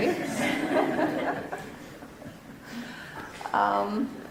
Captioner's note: laughing